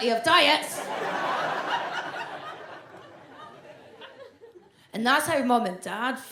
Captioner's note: audience laughs